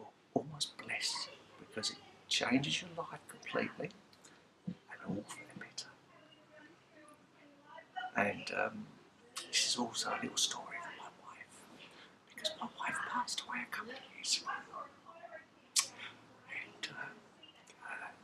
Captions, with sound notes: You are almost blessed because it changes your life completely, (whispers) and all for the better and...um.. (whispers) this also a little story for my wife because my wife passed away a couple of years ago and...um..